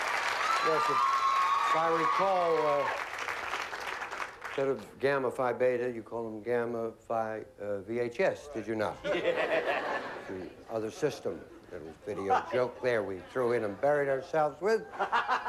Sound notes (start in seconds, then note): 9.0 laughter